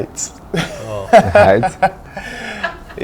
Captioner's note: laughter